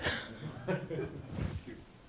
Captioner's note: audience laughs